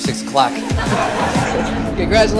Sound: laughing

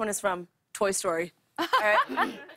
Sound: laughs

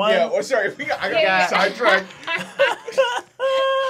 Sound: laughing

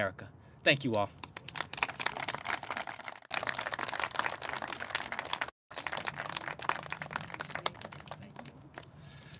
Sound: clapping

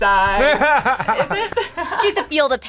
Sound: laughs

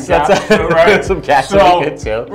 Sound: laughs

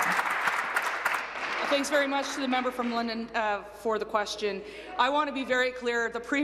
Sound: applause

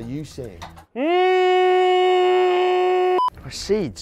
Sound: shouts

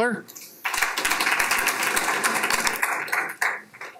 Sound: applause

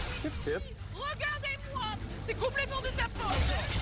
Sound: woman Speaking French; man Speaking French

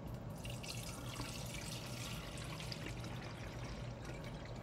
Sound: water pouring

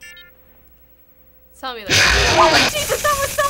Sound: loud, abrupt screech

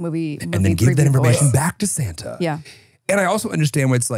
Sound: gasps

